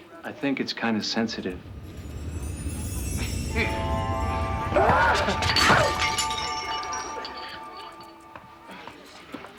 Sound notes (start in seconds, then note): 1.2 rumbling; 4.5 screams; 5.6 glass clattering